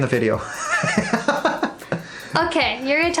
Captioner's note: laughs